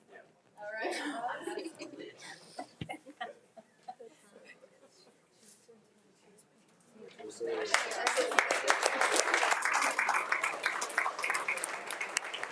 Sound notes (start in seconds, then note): 0.6 board members laughing and speaking faintly; 7.3 attendees speaking faintly and applauding